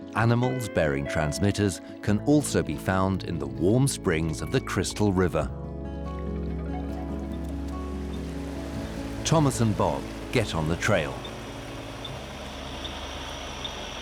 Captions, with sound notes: Animals bearing transmitters can also be found in the warm springs of the Crystal River. Thomas and Bob get on the trail. [equipment beeps regularly]